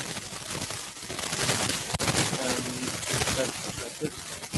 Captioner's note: static continues